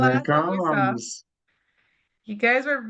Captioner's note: speaking faintly